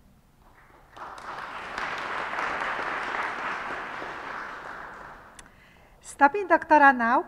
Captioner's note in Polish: oklaski